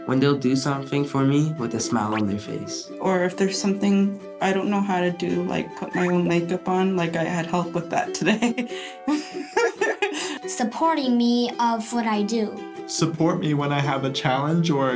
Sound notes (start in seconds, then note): 9.0 laughs